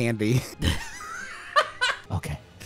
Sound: laughs

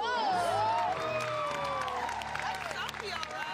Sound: cheers and applause

